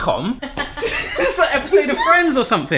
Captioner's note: laughs